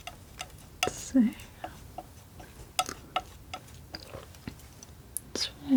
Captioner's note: scratching